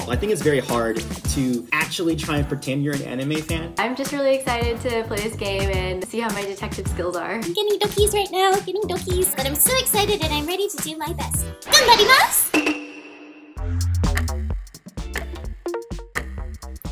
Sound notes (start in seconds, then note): 7.8 speaks in Japanese; 11.5 speaks in Japanese; 13.5 steady music